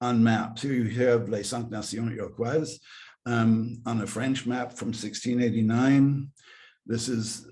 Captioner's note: speaking french